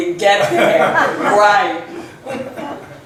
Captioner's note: laughs